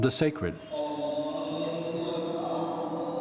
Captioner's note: congregation chanting